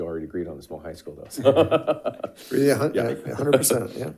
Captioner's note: laughs